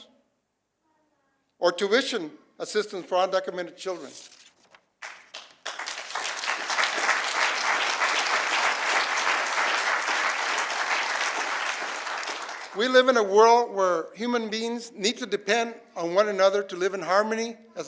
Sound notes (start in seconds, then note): 7.5 applause